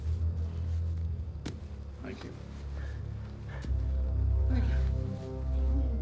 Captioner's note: guns thuds to ground